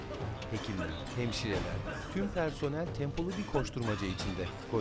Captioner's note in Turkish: Öksürük sesleri